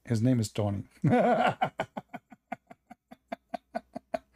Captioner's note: Ketawa